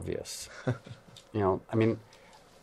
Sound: laughs

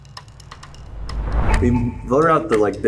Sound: wind whooshing

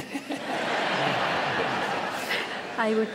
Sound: laughter

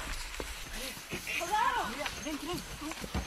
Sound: scared Voice

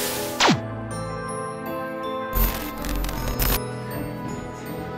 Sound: static fizzing; white light zapping

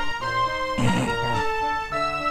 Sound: romantic music playing; sniggers

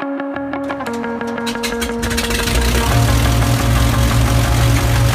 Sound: intro music; Baron engine #1 starting; Baron engine #2 starting

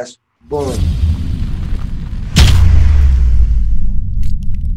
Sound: booming

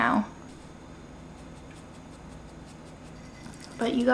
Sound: spice tin rustling; crackers rattling

